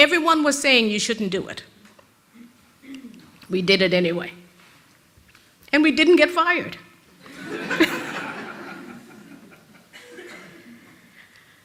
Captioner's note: rires de l'auditoire